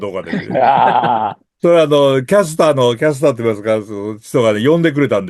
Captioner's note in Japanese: 笑い